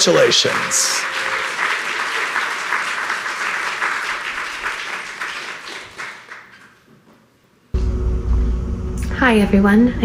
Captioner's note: audience applauding